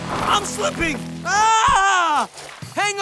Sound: screaming

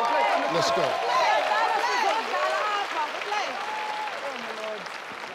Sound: audience clapping

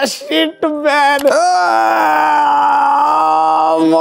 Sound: screaming

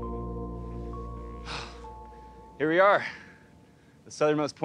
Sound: exhales

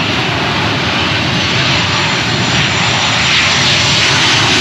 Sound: plane engine roaring

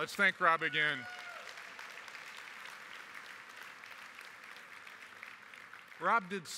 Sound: applause

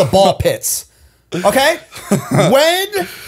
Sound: chuckle

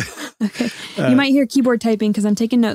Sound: laughing

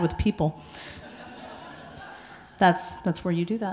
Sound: audience laughing

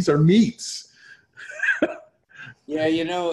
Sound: laughs

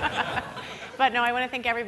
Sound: audience laughing

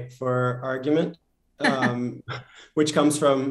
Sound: laughter

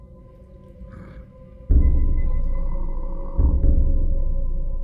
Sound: monster grunts

